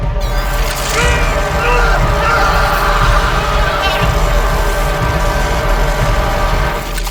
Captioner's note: electric buzzing; Jack yelling